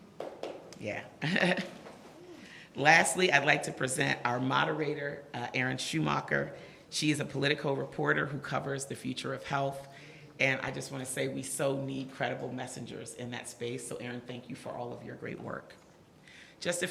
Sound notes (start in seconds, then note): 0.3 audience applause; 1.2 laughs